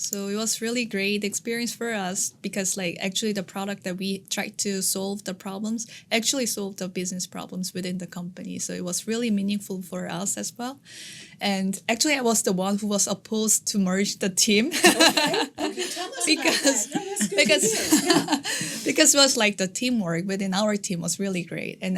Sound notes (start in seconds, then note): 14.7 all laughing